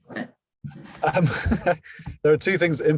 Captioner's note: both laugh